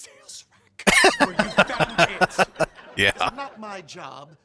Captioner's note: laughing